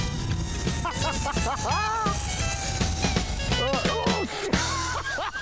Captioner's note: laughter